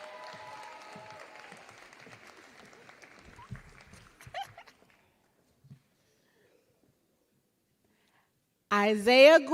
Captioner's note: applause